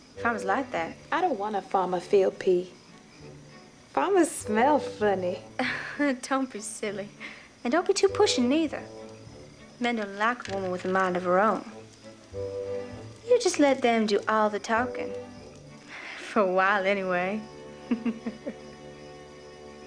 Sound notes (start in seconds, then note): 5.6 laughs; 17.8 giggles